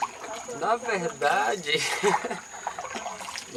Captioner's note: laughter